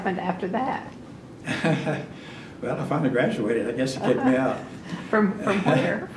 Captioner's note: laughs